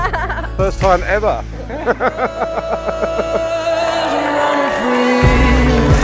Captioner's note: laughs